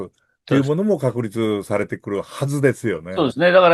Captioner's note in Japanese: 鼻息